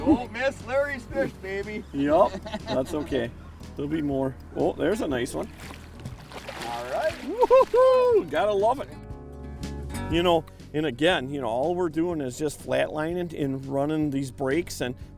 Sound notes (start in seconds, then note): 0.2 voiceover; 7.3 shouting